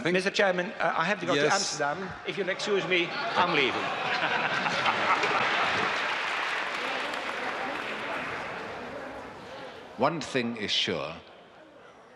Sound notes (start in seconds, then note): 3.0 audience laughing; 6.1 audience applauding; 6.1 audience murmuring